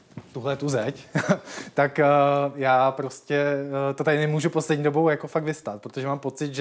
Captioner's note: laughter